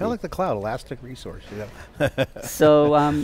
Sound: laughs

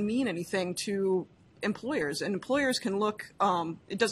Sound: none

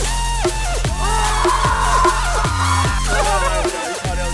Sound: screams

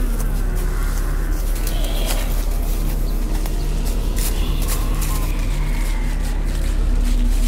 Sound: zombies groaning & growling

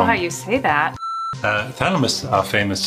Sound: TV beeps

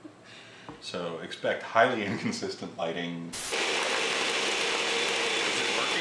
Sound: loud blender running

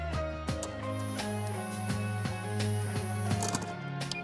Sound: the sound of machinery being used

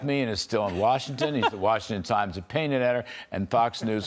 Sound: laughter

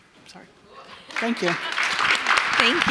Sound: audience applauding

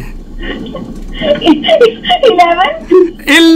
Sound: laughs

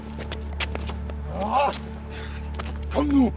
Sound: exclaiming angrily

